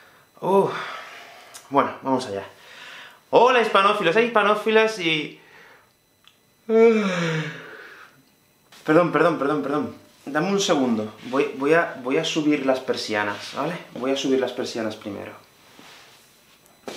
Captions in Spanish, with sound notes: ¡Ohhh! ¡Bueno, vamos allá! ¡Hola, hispanófilos e hispanófilas! Y... [Bostezo] ¡Perdón, perdón, perdón! Dadme un segundo... Voy a subir las persianas, ¿vale? Voy a subir las persianas primero...